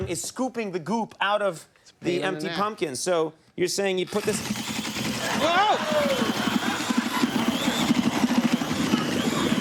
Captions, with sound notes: is scooping the goop out of the empty pumpkin. So, you're saying you put this. (audience laughs)